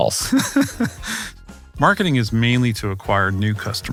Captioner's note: laugh